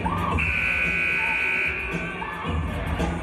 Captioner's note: buzzer